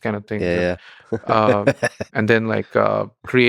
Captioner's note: Lex laughing